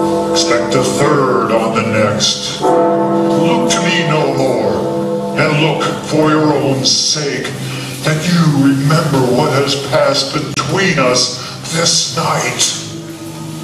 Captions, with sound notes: Expect the third on the next. (Big Ben tolls) Look to me no more; and look for your own sake, and you remember what has passed between us this night